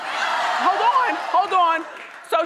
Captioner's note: audience yelling